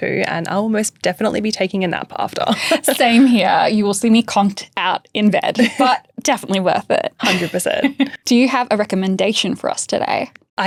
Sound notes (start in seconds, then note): 2.4 chuckles; 7.2 chuckles